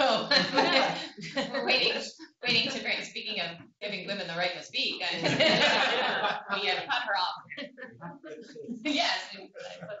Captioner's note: laughter